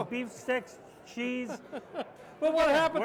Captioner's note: others laughing